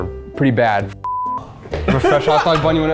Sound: beep

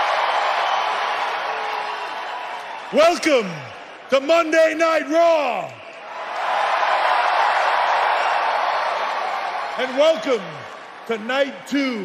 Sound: cheering

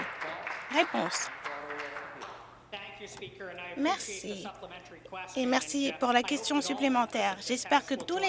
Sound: some Applause

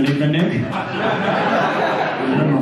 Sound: audience laughter

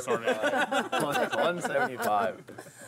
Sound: laughing

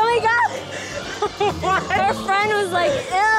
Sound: laughing

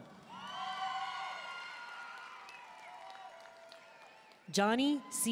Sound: audience cheering and applauding

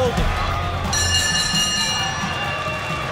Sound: bell rings

